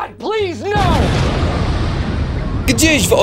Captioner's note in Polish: boom!